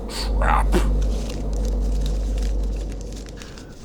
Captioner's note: sound of paper crinkling